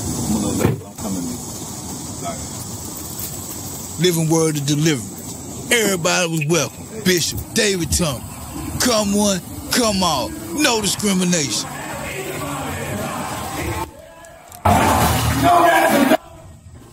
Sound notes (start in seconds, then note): 11.9 crowd noise from inside